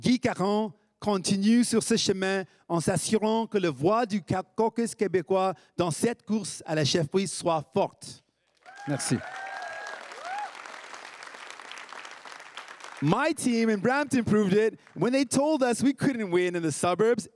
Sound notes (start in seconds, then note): 8.6 crowd cheering and applauding